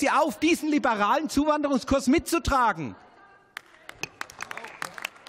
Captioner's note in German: Beifall